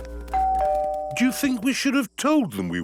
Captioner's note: doorbell rings